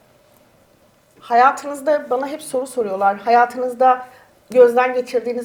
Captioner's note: speaks in Turkish